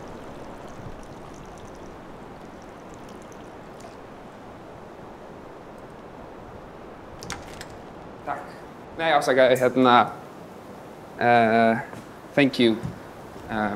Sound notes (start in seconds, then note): 0.0 urinating sound; 7.1 door opens; 8.4 speaking on the phone